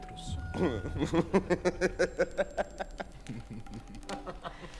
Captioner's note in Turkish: Gülme sesleri